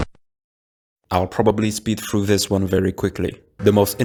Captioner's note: bored voice again for some reason